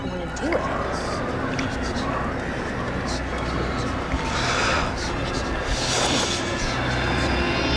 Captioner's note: whispers